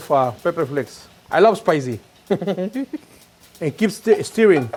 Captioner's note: giggles